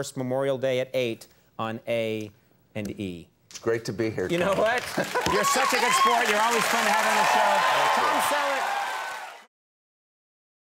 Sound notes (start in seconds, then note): 4.6 audience cheers; 9.4 audience applauds